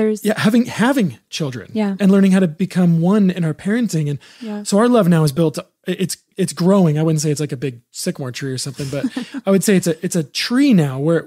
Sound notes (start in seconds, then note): 8.7 laughs